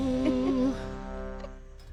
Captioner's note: laughs